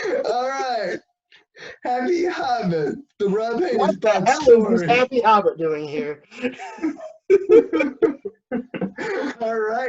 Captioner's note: continued laughs